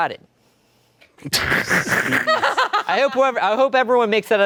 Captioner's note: laughing